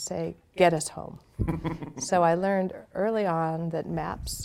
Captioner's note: chuckling